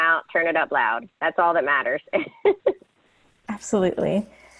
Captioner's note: laughs